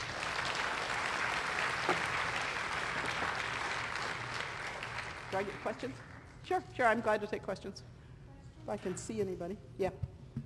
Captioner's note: applause